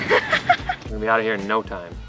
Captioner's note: laughs